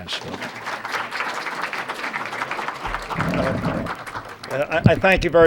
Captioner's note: applause